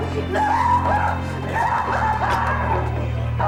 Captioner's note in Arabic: صراخ